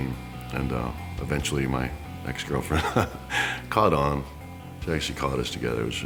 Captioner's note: laugh